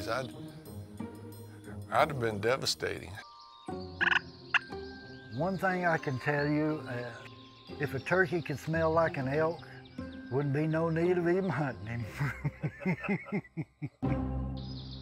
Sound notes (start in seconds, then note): 4.1 mock hunting calls; 12.0 laughing